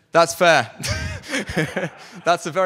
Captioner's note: laughter